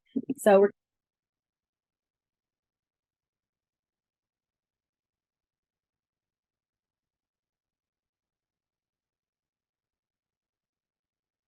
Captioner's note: audio cuts out